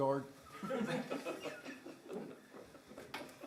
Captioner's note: laughter